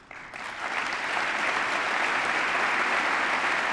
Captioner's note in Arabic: تصفيق